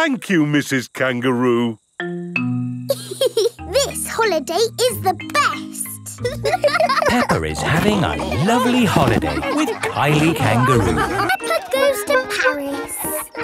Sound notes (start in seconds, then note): 3.5 giggles; 6.4 laughing